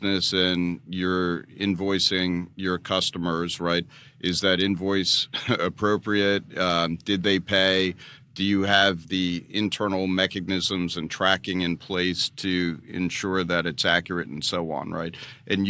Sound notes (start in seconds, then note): 5.3 laughs